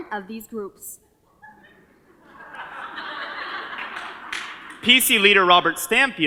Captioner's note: audience laughs